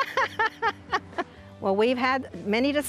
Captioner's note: laugh